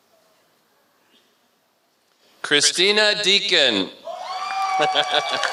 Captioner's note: applause